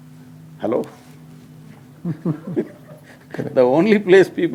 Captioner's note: few laugh